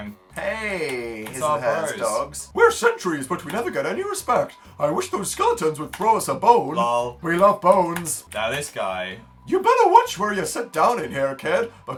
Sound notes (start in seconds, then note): 2.4 dog voice